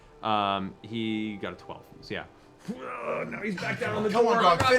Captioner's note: groans